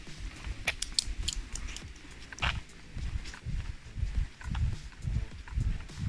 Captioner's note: walking